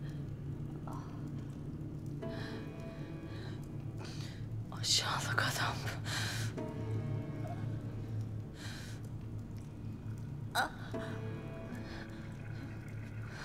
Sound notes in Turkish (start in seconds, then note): 0.0 Alev sesi; 0.0 Müzik - Gerilim; 3.3 Nefes sesi